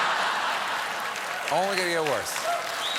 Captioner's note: laughter; applause